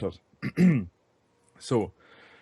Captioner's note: clears throat